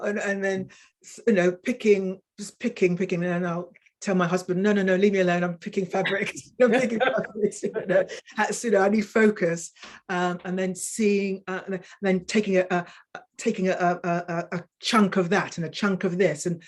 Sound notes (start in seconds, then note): 6.6 women chuckling